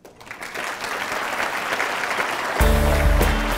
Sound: applause; light music

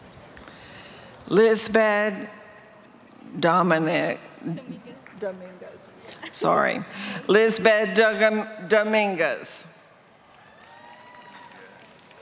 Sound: applause

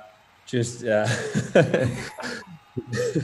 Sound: laughs

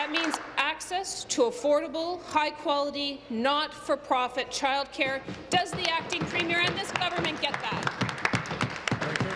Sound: applause

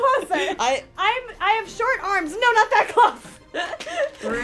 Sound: laughs

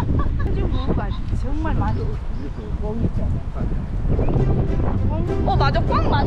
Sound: wind sounds

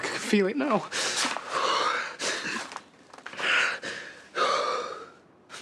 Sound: Aaron gasps for air

